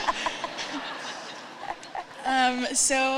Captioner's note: laughter